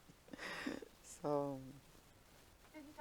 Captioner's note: laughing